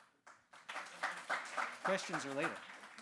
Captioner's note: audience clapping